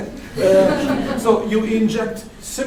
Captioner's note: audience laugh